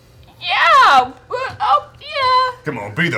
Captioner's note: voice cracking